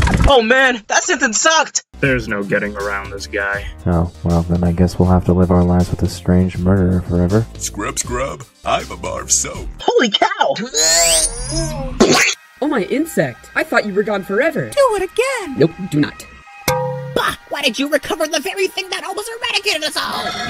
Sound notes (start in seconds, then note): 10.6 squeezed grunting; 12.0 splat!